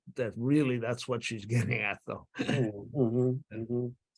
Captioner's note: chuckling